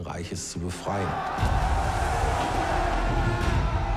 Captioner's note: screaming